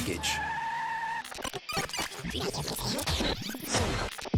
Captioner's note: tires squeal; tape rewinding